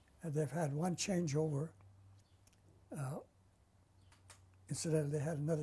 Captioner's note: pauses for 3 seconds